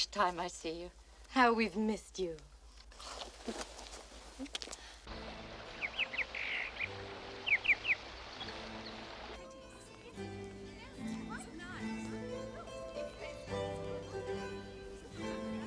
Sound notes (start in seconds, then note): 5.2 birds chirping